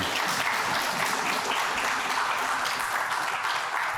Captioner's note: applause